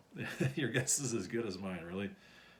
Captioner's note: chuckles